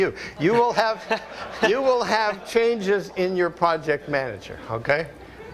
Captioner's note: audience laughter